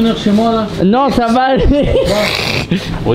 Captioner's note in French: rire